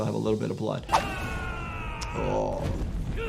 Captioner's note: fighter yelling